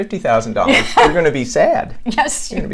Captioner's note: laughs